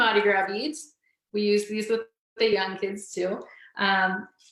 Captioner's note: speaking faintly